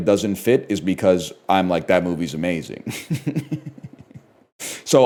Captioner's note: chuckles